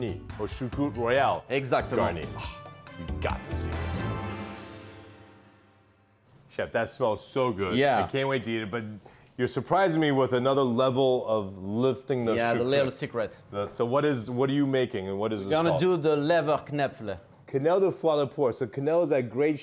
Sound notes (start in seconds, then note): 3.1 gasps